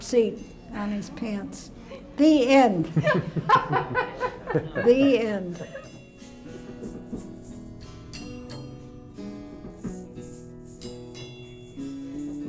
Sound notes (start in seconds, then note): 6.2 laughter